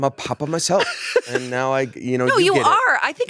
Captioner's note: laughs